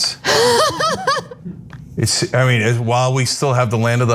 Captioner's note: laugh